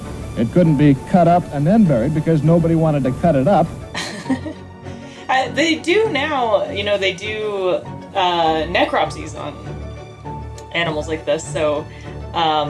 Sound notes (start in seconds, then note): 3.9 chuckles; 4.5 background music